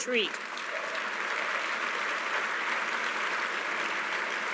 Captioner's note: applause